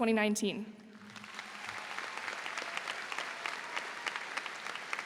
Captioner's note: audience applauds